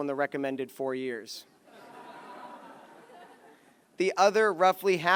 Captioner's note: laughter